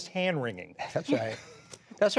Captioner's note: laughter